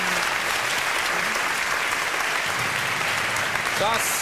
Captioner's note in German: Applaus